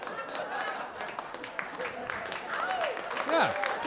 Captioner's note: applause